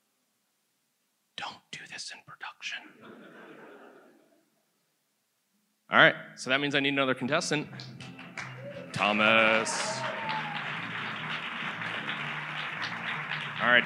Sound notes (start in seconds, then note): 3.0 audience laughs; 10.3 audience applauds